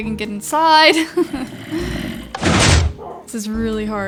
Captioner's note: laughs